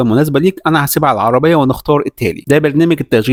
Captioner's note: Arabic